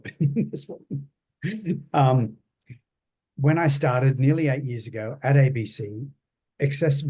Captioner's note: laughs